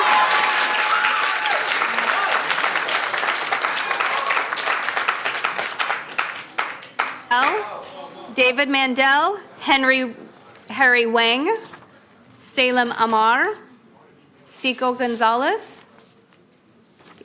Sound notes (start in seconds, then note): 7.1 applauding